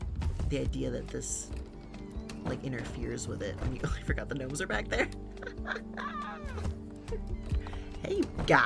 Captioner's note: laughs